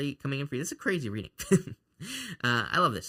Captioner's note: chuckles